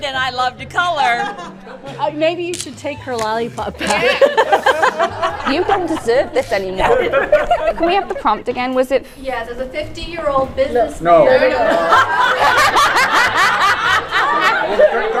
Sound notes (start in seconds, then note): 3.3 laughing; 11.6 everyone laughing